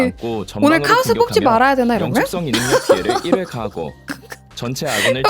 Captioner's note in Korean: 웃음